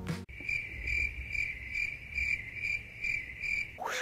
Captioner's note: crickets